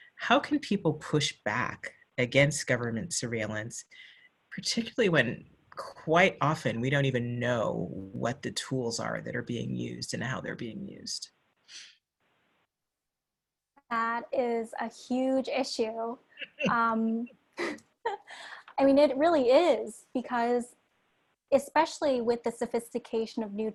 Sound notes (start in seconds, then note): 16.4 chuckles